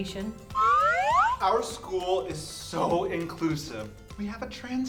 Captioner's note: slide whistle up